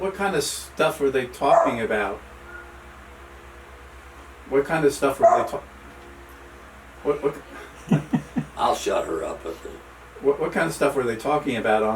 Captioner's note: dog barks; dog barks again; dog barks a third time